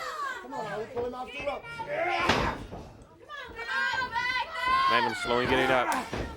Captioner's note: crowd chatter